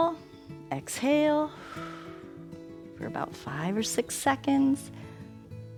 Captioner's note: exhales